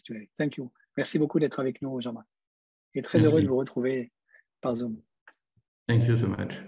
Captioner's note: speaks in foreign language